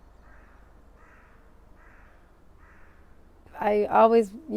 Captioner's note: crow calling